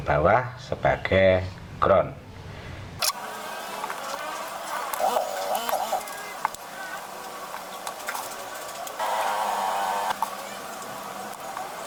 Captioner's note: clap